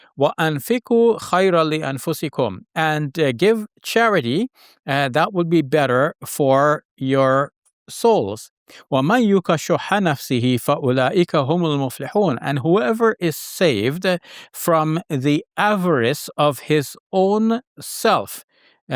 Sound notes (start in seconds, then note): 0.2 talks in Arabic; 8.9 talks in Arabic